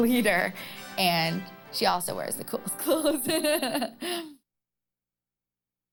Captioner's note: laughing